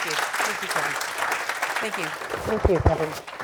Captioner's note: audience applauds